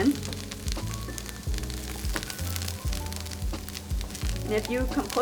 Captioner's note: frying pan sizzling; smooth jazz music continues